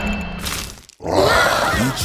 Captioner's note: screaming